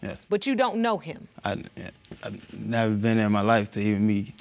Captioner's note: stammering